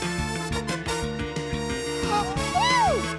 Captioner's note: gasps